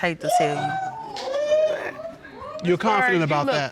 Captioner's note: audience gasping